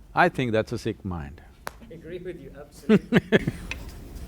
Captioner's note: both laugh